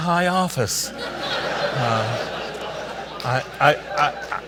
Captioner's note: audience laughs